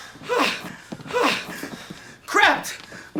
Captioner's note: gasping